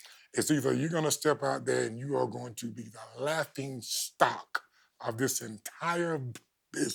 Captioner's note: none